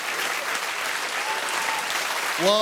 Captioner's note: cheers and applause